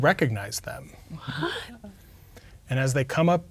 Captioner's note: quietly